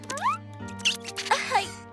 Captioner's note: squirrels Squeaking